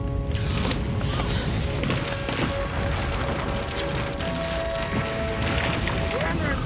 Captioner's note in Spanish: rumbling